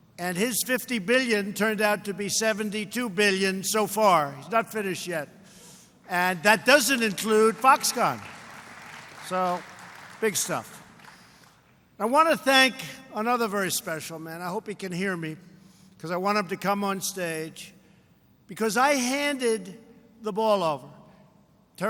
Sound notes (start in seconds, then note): 6.8 applause